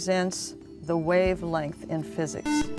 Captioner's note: buzzer